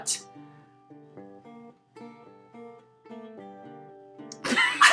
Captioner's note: silence; laughing